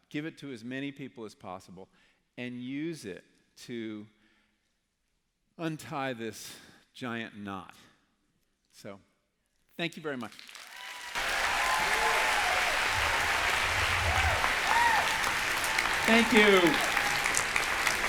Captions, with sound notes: Give it to as many people as possible? And use it to untie this giant knot? So…thank you very much. [APPLAUSE] Thank you.